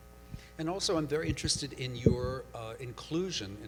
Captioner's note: voiceover